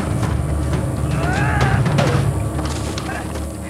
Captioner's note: yells